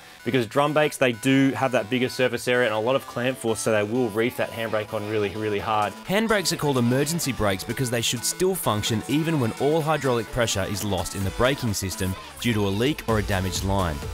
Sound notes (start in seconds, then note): 6.0 voiceover